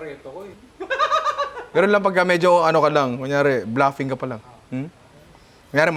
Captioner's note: laughs